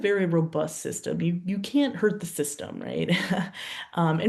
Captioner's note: laughs